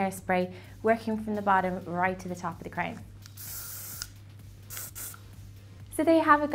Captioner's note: spraying